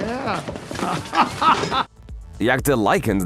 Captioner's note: laughs